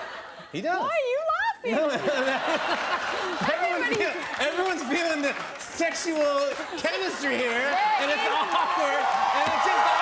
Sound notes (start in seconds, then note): 1.6 laughter